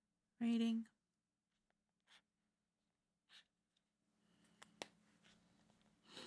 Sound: silence

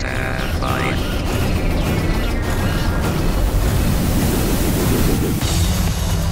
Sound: alarm blaring faintly; spacecraft clattering; dramatic synth music; pod whirs and clangs

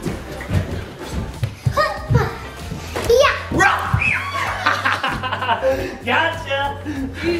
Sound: screams; yells

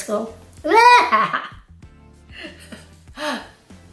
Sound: chuckles

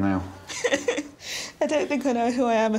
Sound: laughs

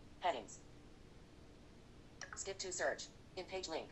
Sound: blip

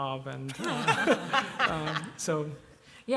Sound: laughter

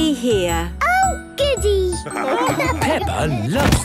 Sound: laughing

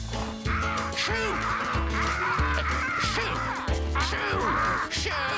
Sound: cawing

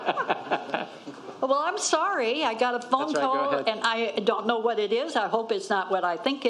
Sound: laughter

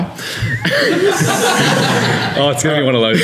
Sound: laughter

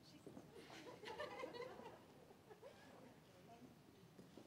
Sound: laughing

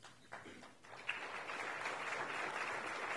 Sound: applauding

